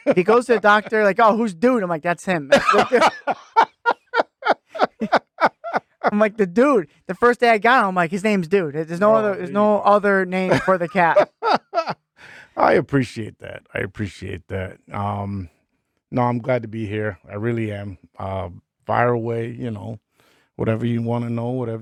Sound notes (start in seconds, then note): 2.5 laughing